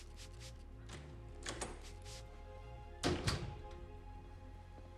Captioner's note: door opens, closes